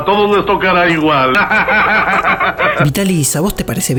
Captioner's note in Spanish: Risas